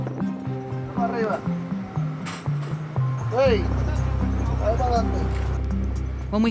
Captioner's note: conversing in Spanish